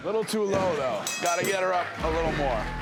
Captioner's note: bell rings